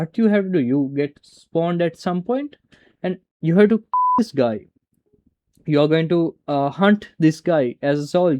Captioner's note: beep